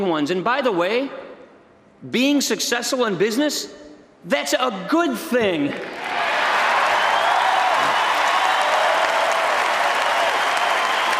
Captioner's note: applause